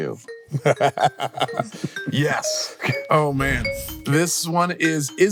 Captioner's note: laughs